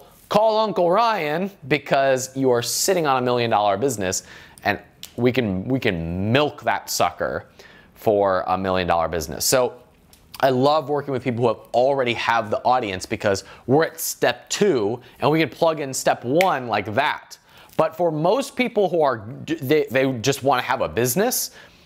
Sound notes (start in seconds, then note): 16.7 snaps